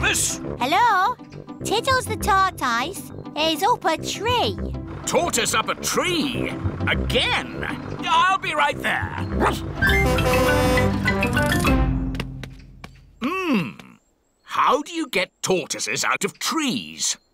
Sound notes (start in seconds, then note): 9.3 barks; 9.6 horn honking